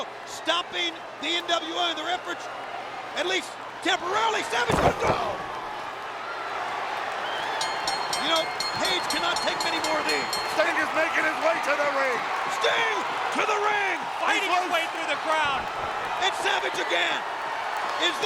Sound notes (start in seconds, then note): 4.6 body thudding; 7.0 audience cheering; 7.5 bell ringing